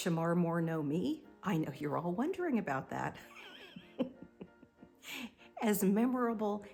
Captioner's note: laughs